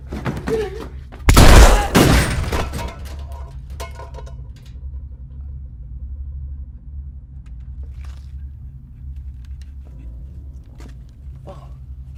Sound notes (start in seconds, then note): 1.3 blast; 1.3 thud; 7.9 footsteps pattering